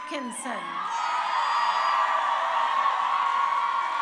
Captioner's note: crowd cheering